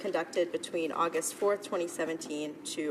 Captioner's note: speaking French